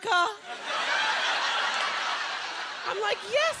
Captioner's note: laughter